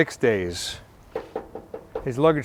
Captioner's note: knocking sounds